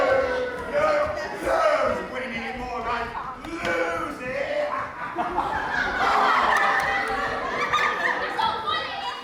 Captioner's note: audience boos; audience boos mixed with laughter